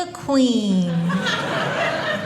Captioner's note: audience laughing